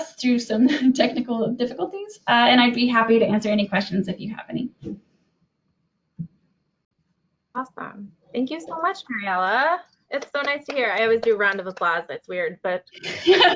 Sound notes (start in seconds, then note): 10.1 claps